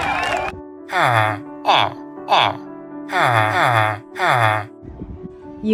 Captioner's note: villager noises